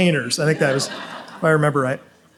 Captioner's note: audience laughs